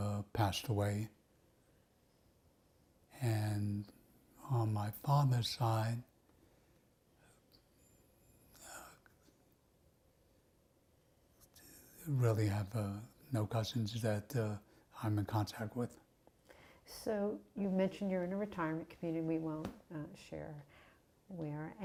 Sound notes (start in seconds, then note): 7.6 pauses 6 seconds